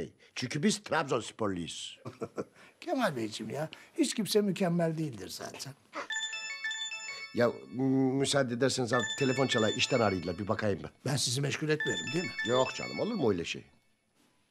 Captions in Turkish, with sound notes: Çünkü biz Trabzon Sporluyuz. Kemal Beyciğim ya, hiç kimse mükemmel değildir zaten. (Telefon zili sesi) Yahu, bu müsaade ederseniz telefon çalıyor. İşten arıyorlar, bir bakayım ben. Ben sizi meşgul etmedim, değil mi? Yok canım, olur mu öyle şey?